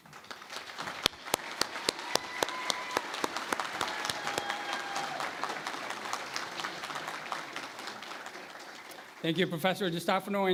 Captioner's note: cheering and Applause